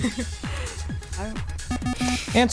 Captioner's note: buzzer